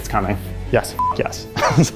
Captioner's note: beep